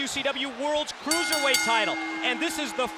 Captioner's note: bell rings